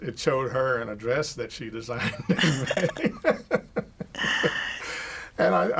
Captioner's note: both laugh